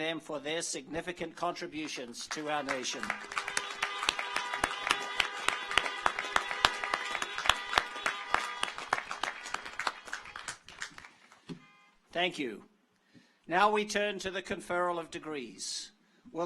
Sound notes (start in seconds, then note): 1.8 audience applauds; 3.0 car horns honking